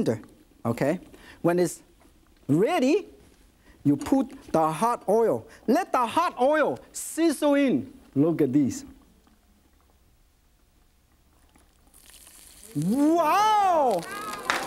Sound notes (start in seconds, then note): 12.0 loud sizzles